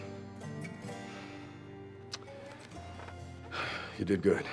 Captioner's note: sighing